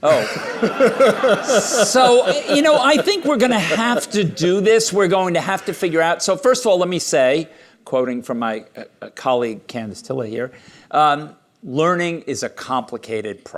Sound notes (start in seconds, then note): 1.8 laughter